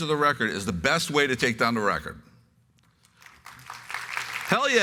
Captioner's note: applause